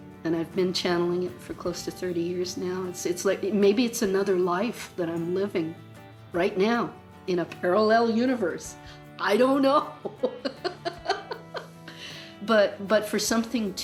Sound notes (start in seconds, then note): 10.0 laughs